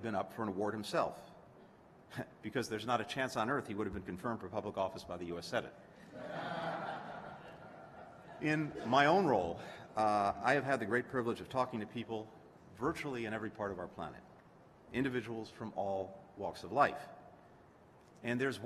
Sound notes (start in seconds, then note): 6.0 laughter